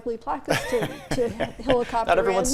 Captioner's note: laughs